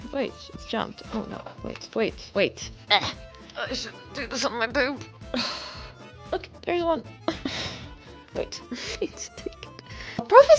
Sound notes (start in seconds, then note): 7.2 sighs